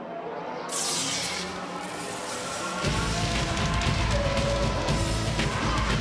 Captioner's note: intense rock music; electricity zaps